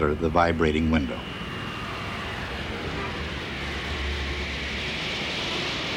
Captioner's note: jets roaring